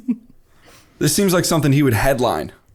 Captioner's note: chuckle